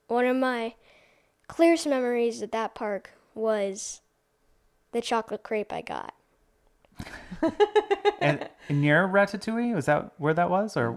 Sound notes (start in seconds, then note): 7.0 laughing